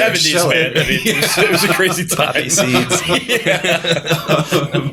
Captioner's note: laughter